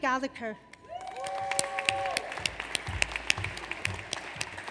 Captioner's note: audience applauds